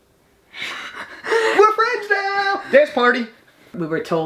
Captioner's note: laughs